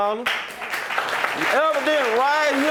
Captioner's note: audience applauding